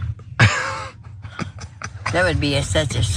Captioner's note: laugh